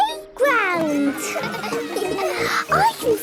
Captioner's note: children laughing